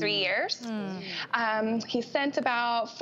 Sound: women murmuring

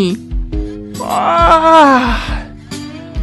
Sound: yawn

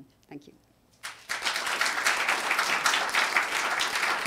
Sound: applause

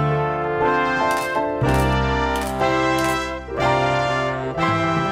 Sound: photos clicking

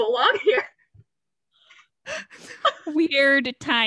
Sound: laughs

